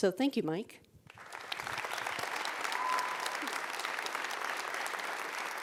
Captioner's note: audience applauds